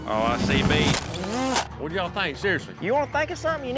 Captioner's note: crash